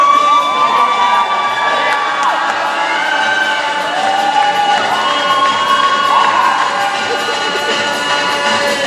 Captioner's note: cheering